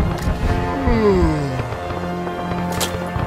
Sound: yawn

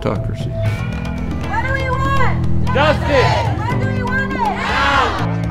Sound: crowd

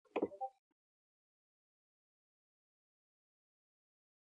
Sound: computer beeps

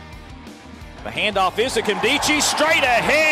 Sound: voiceover

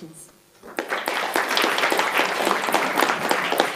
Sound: applauding

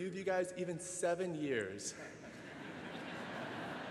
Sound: laughter

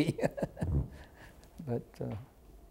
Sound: laughter

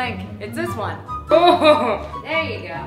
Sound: deep throated laugh

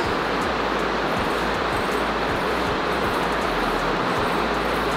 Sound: sound of a heavy rain

